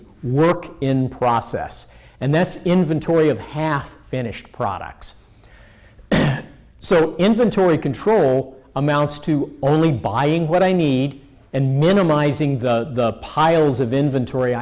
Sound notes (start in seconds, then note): 6.0 clears throat